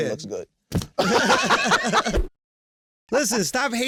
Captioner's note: ball thuds, all laughing